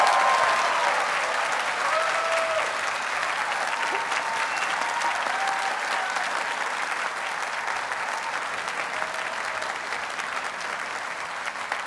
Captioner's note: audience cheers and applauds